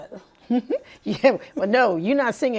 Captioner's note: laughing